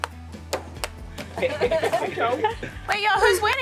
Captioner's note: upbeat music; group laughing